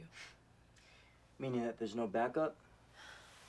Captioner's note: scoffs